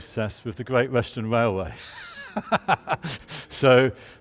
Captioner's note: laughs